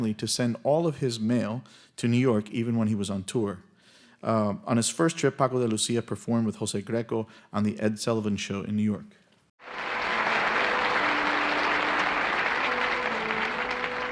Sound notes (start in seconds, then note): 9.6 audience applauding